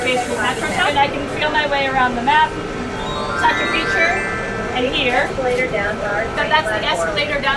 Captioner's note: electronic bells ring; electronic voice